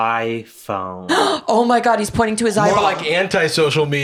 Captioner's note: gasps